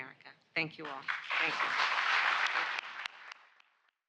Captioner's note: applause